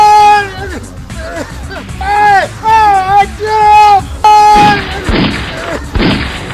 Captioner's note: screaming; gunshots; crunching